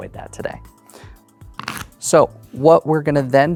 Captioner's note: cards riffling